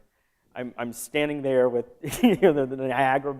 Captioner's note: laughter